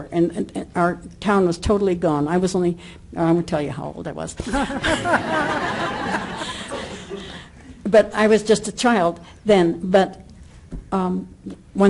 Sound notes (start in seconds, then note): 4.5 audience laughter